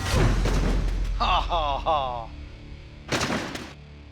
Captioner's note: laughs